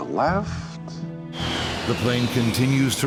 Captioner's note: airplane engine roaring